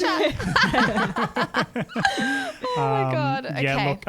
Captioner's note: laughing together